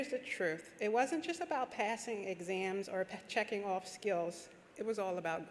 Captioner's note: none